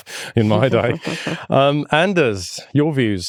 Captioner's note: chuckles